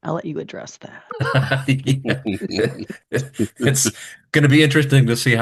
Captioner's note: people chuckling